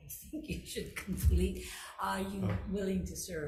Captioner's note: chuckling